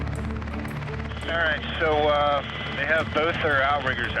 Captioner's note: intense music; man On Radio